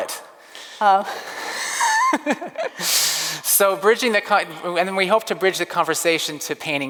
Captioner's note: laughs